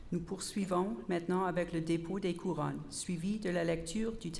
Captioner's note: repeated in French